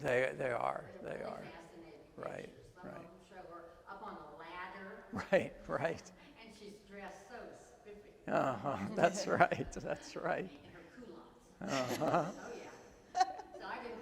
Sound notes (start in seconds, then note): 8.6 groups chuckle; 11.6 host laughs